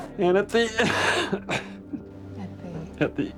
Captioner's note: sobs